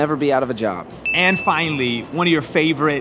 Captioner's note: bell dings